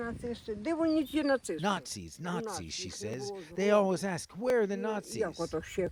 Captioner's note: speaking non-english